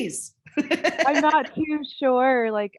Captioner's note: laughing